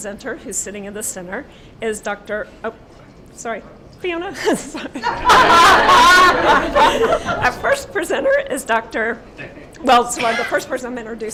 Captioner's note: laughter